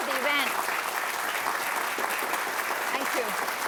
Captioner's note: applause